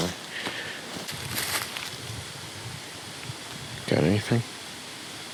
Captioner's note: wind whooshing